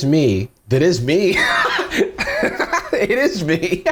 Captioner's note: laughs